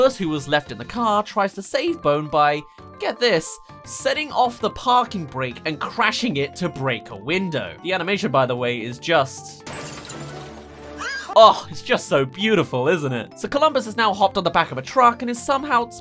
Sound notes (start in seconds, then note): 9.6 smash